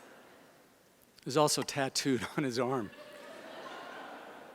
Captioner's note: laughter